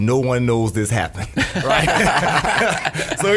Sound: all laugh

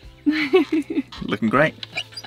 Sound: laughs

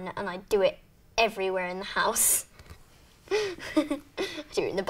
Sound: laughs

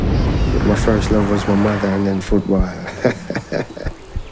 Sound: laughing

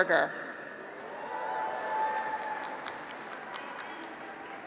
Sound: graduates cheer

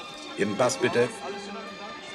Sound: in German

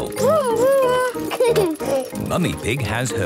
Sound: giggles

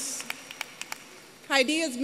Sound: applause

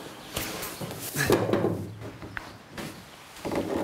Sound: he gasps

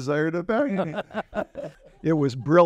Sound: laughter

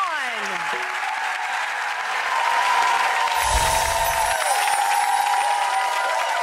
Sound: audience applauds and cheers

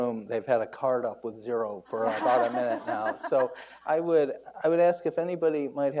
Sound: everyone laughs

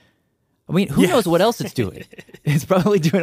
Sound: laughs

